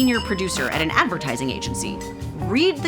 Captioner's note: scanner beeps; buzzing